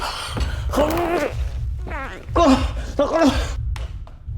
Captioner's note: man gagging